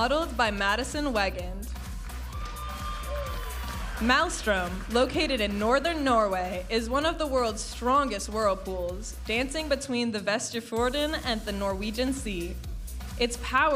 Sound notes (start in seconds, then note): 1.9 audience applauding and cheering